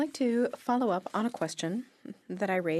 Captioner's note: speaking French